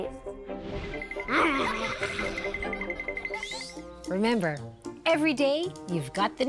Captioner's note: giggling; growling